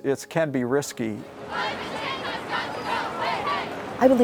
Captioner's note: crowds chanting